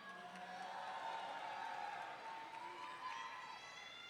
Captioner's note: audience cheering